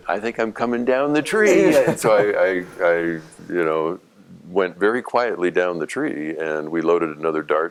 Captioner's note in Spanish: Risas